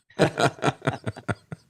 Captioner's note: laughs